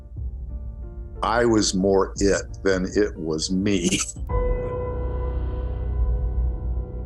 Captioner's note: laughs